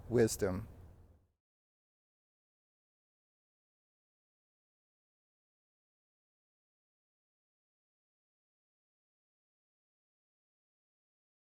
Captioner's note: silence